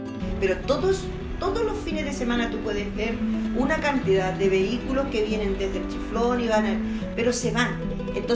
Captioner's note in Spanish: Voz en off